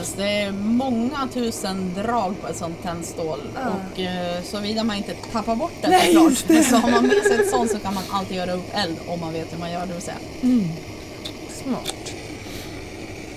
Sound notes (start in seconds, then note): 5.8 laughs